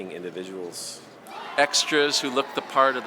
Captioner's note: people shouting faintly